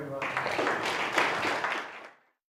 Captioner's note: applause